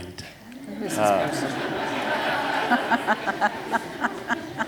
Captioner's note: laughter